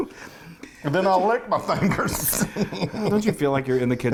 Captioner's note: laughs